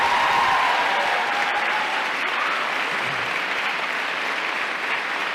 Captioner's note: applause